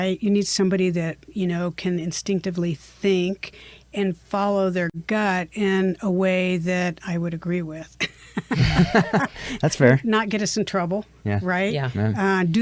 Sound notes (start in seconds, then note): 8.2 all chuckle